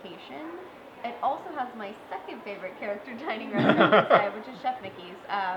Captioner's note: laughter